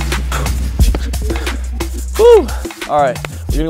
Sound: exhales

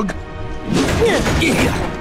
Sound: grunting

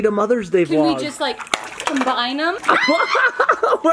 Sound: claps

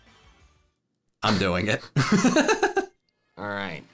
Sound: laughs

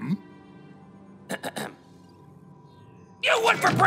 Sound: clears throat

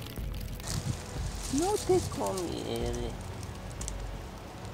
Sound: Spanish

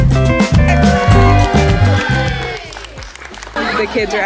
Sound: kids cheering

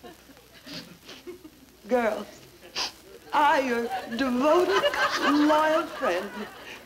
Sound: sniffling

